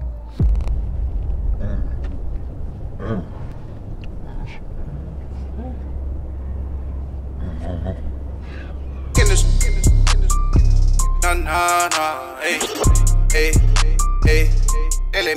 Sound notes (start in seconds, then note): 0.4 distorted groans; 7.9 distorted groans; 9.0 mellow hip hop music